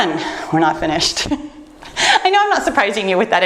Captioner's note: laughs